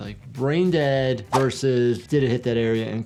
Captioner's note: graphics whooshing